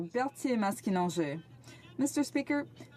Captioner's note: speaking French